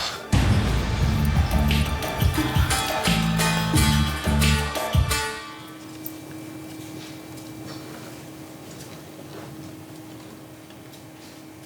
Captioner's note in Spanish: Ruido de un ventilador